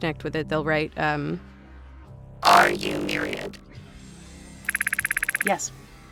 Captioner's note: keyboard clacking